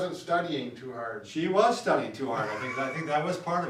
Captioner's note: laughs